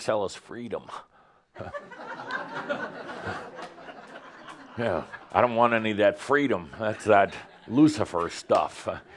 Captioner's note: laughter